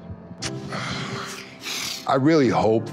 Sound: deep breath

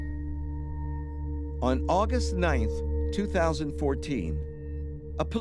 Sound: voiceover

